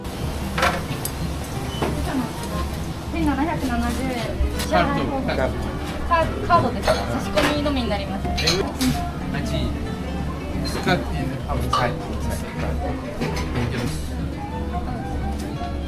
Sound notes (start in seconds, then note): 3.1 speaking Japanese